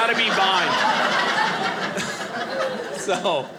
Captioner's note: audience laughing